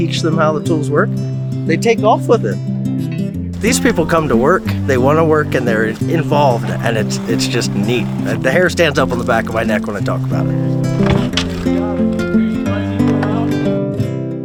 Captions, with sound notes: These people come to work. They wanna work and they're involved, and it's just neat. The hair stands up on the back of my neck when I talk about it. (muffled chatter) (tools thump)